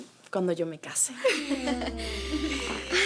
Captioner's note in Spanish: Risas